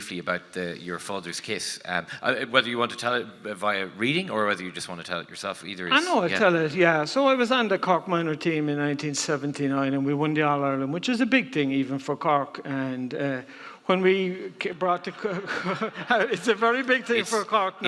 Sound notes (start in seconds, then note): 15.1 audience laughing